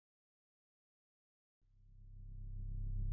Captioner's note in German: Stille